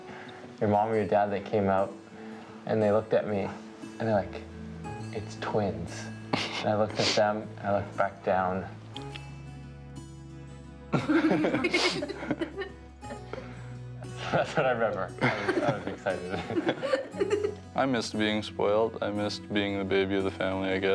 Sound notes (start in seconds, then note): 15.2 laughter